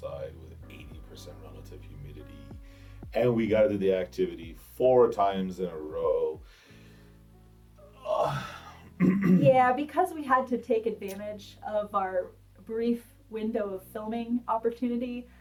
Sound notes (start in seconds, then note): 7.3 clears throat; 7.8 sighs